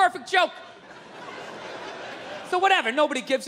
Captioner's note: crowd laughs